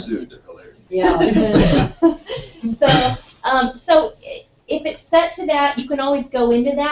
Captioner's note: laugh